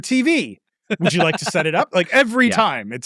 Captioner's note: laughing